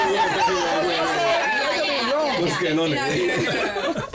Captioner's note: chatter